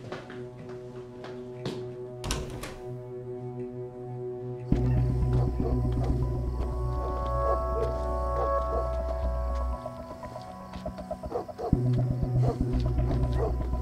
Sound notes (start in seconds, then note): 2.2 door opens; 5.2 distant dog barking